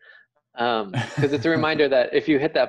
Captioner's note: man laughing